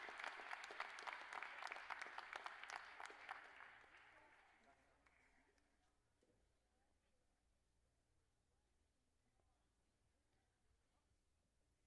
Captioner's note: applause